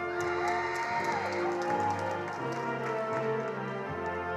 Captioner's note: attendees applauding